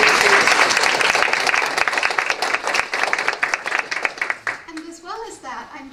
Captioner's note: applause